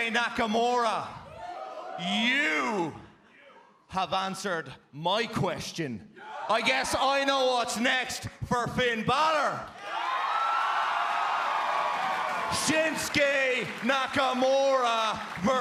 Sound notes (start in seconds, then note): 9.7 cheers and applause